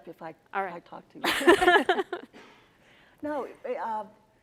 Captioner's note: all laugh